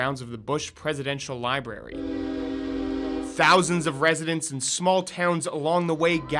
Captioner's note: sound of- Train